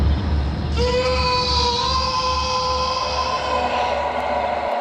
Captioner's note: screams of Agony